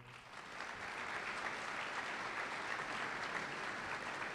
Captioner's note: applause